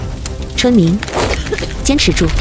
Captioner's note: coughs